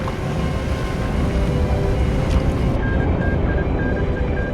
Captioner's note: morse code beeping